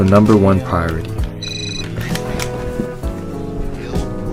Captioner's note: cell phone rings